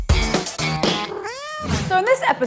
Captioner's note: upbeat music; cat meows